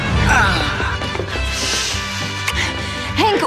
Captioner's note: sighs